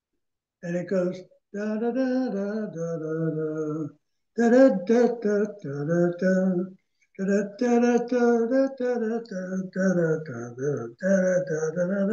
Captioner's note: hums